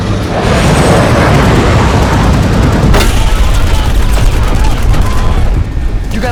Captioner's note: shooting